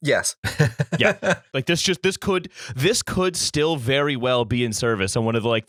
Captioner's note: laughter